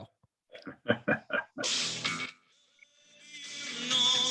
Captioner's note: laughs